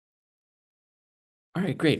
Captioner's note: silence